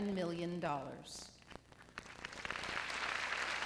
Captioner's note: applause